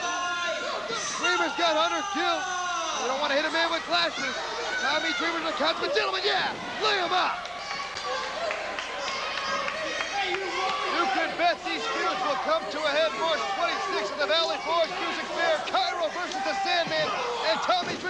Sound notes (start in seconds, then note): 5.2 crowd cheering; 12.3 crowd cheering